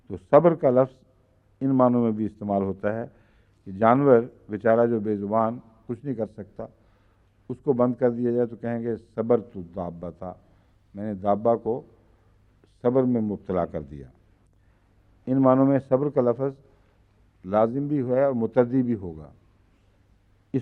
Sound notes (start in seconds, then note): 10.0 Arabic